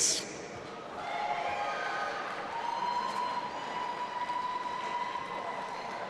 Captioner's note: audience applauding and cheering